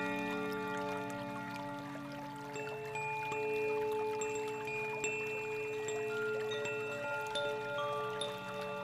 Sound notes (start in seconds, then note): 2.0 bells lightly chiming; 2.0 water babbling